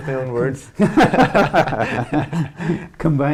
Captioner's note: laughter